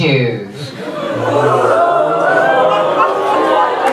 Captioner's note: audience reacts